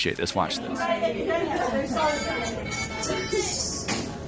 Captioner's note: chattering